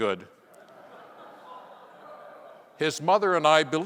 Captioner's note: audience laughing